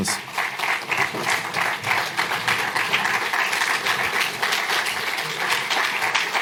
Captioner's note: applause